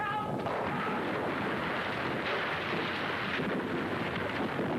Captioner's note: rocks rumbling